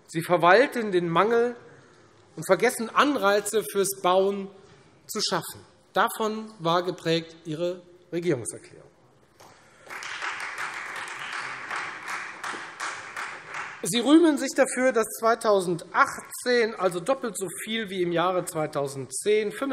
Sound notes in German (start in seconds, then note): 9.4 Beifall Freie Demokraten